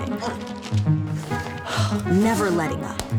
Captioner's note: sighs